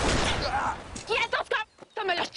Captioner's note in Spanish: Disparo